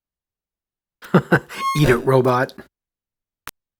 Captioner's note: chuckles